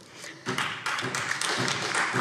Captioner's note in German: Beifall SPD